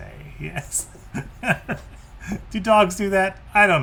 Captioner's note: laughs